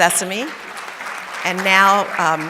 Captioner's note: audience applauding